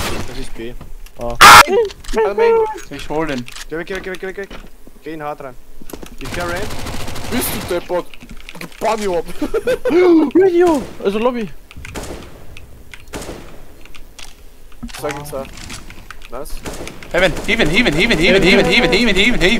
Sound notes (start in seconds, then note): 9.2 laugh; 10.1 surprised